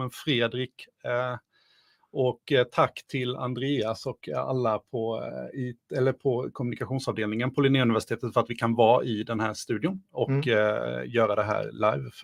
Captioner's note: speaking in Swedish